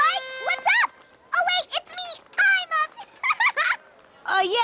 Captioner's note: laughs